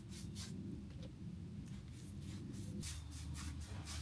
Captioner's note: paintbrush scraping